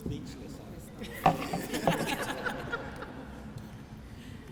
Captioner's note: laughter